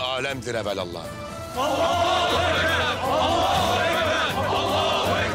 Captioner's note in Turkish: Hep bir ağızdan